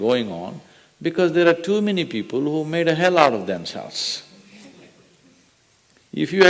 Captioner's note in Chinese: 笑聲